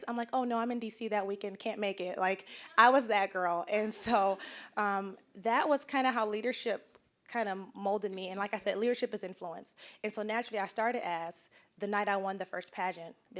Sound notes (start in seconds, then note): 4.3 audience chuckling